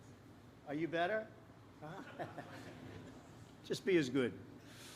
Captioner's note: laughs